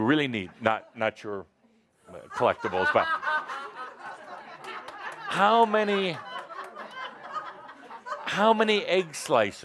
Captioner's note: laughter